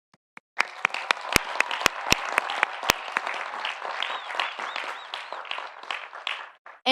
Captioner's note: audience cheering; audience applauding